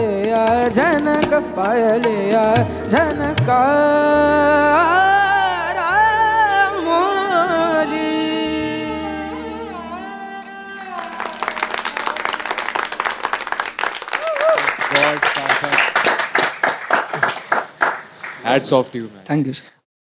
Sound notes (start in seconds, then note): 10.8 all applauding